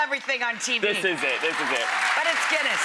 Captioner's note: audience clapping